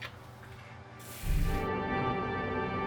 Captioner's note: shower running